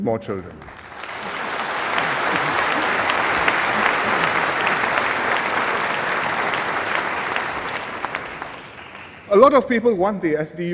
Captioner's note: applause